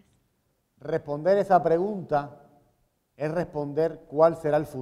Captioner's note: speaking in Spanish